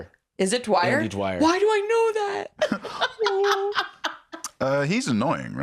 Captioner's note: laughs